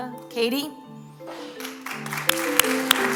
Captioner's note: applause